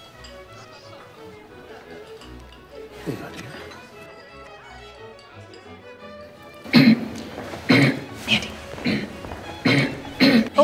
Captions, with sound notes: Here you go my dear. (throat clearing) Mandy Eh-em Mandy Oh my dear,